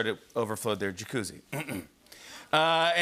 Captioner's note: clears throat